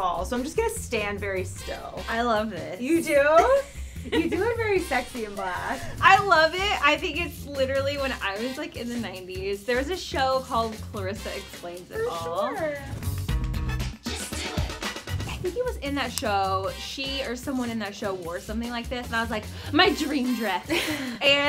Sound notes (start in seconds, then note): 3.3 laughs; 13.1 cheerful music